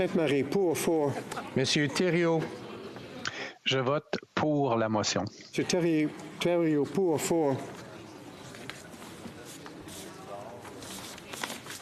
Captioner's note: speaking FRENCH